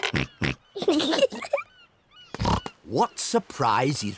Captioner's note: oinks; both giggle